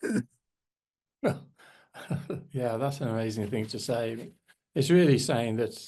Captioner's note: chuckles; chuckling